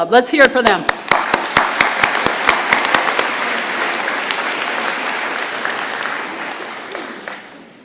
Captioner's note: applause